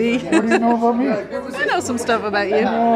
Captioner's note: chuckles